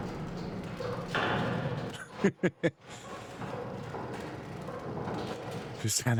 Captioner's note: laughing